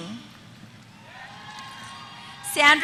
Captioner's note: applause